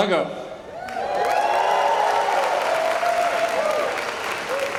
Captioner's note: cheers and applause